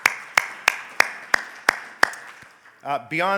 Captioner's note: all applauding